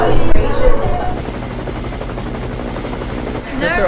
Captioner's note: helicopter